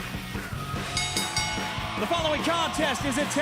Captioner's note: cheers and applause; bell ringing